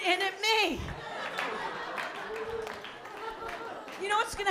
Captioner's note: laughter